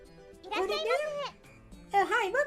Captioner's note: Otto voice